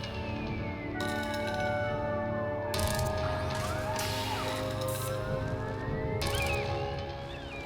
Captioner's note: siren